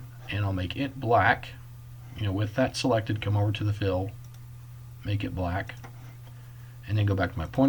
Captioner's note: click